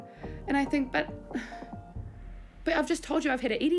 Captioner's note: sighs